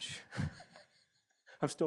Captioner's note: chuckles